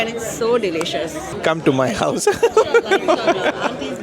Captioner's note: laugh